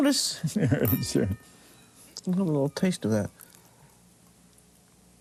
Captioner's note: chuckles